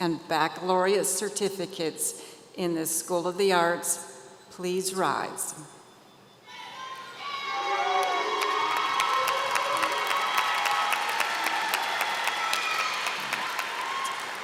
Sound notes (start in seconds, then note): 7.8 applause